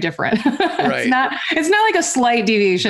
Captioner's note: chuckles